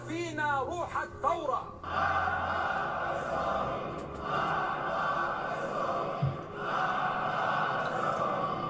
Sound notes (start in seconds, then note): 1.8 chanting in a foreign language